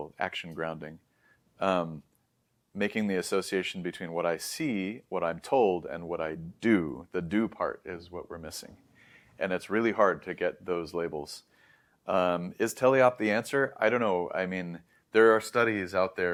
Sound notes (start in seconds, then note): 8.9 inhales; 14.0 background static continues